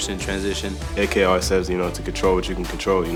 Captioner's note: voiceover